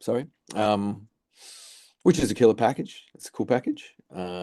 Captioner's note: inhales